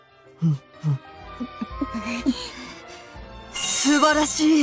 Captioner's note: gulp